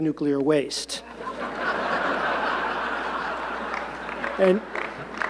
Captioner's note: audience laughing